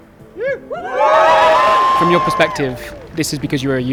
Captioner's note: crowd cheering